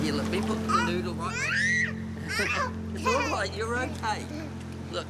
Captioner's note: squeals